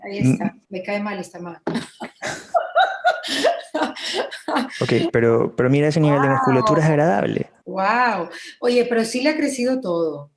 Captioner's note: laughs